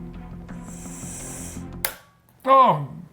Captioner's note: intense music continues; breath intaking; pendant clicking